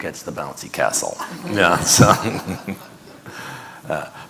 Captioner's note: audience laughing